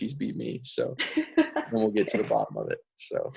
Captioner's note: laughs